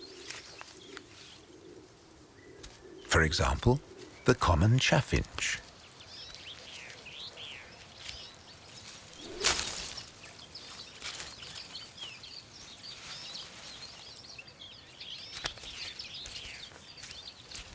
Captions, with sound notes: For example, the common chaffinch. (leaves rustling)